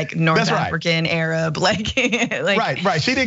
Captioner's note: laugh